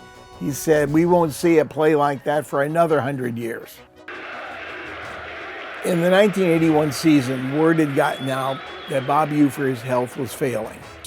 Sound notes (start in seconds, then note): 4.1 Crowd Chanting "Ufer"